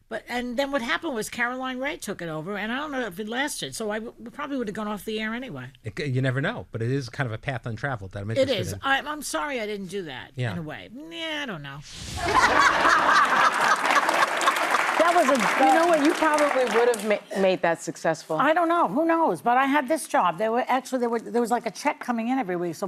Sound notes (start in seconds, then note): 12.1 audience laughing